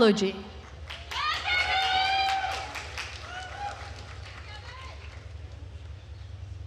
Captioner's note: attendees cheering and applauding